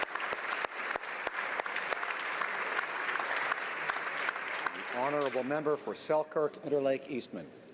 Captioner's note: applause